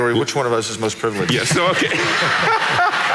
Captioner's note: audience laughing